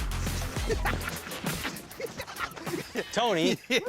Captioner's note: laughter